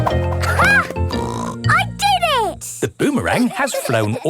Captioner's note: snorts